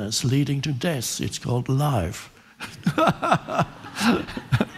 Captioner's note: laughing